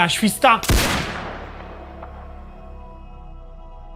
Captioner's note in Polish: wystrzał